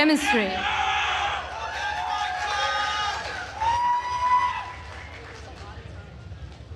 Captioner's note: attendees cheering and applauding